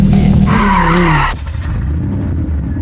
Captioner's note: tires screeching